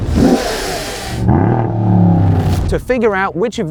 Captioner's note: revving